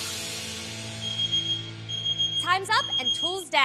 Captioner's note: timer Beeps